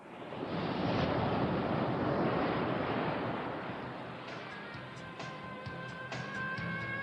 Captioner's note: SFX: wind blowing